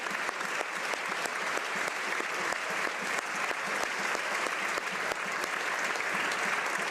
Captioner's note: some applause